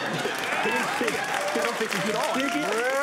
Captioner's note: applause; laughter; applause